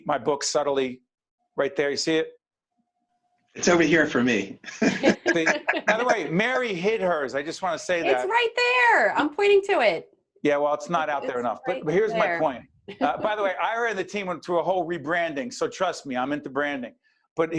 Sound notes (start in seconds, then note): 4.6 laughing